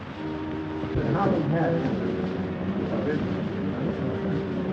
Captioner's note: mingling Guests